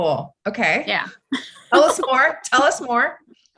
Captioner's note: laughs